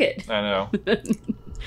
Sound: laughing

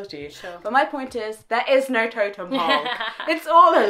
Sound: both laugh

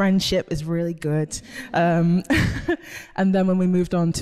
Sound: a few giggle in the background

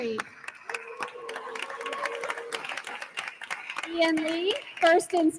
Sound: attendees applauding

